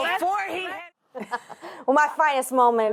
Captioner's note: laughter